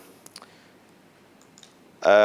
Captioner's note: mouse clicks